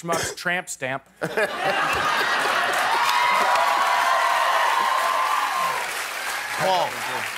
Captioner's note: laughter